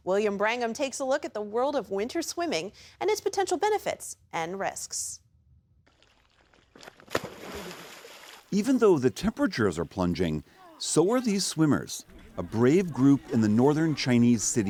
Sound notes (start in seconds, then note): 9.0 voice-over